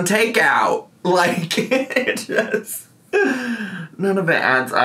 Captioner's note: laughing